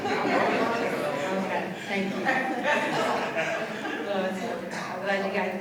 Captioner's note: laughter